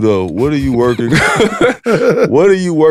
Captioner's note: laughs